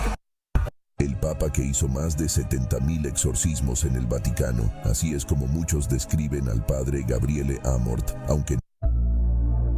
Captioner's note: foreign language